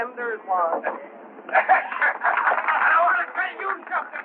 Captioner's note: people cheering